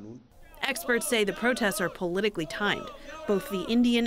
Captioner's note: voice-over